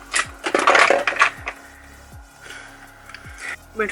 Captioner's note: clanging of objects; pop music